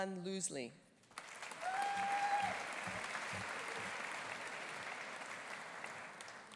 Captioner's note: audience applauding; audience cheering